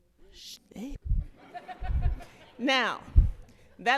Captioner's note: laughter